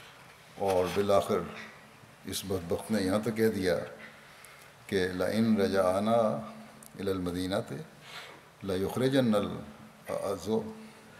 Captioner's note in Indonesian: Bahasa Arab